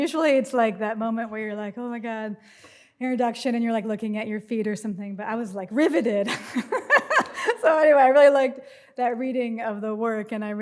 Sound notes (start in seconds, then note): 6.5 laughs